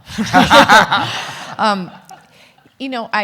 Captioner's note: everyone laughing